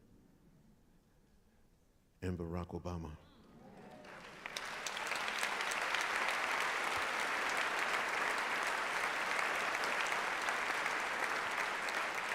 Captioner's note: applause